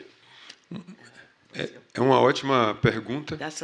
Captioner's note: speaking portuguese